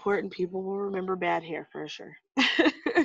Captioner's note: laughs